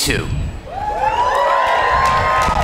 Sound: applause

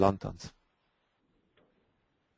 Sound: silence

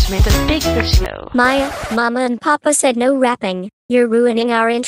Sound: record scratches

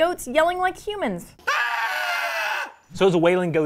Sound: yelling

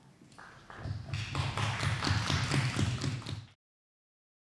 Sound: applause

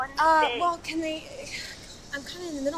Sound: Cassidy stammering

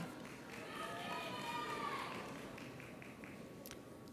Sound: audience applauds

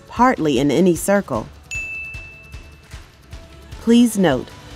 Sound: bell Rings

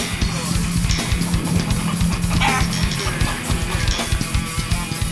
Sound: upbeat metal music; chicken clucking

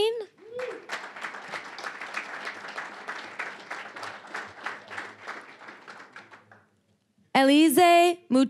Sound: applause

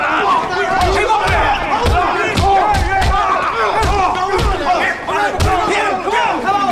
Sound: yelling

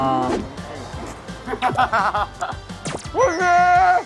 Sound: haha

